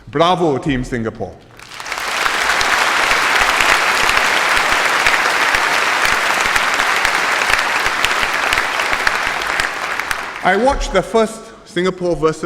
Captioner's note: applause